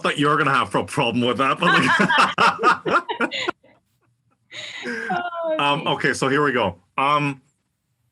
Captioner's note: laugh